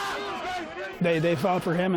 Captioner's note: screaming